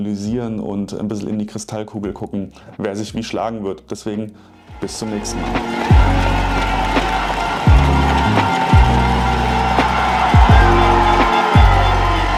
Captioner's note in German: Jubel und Applaus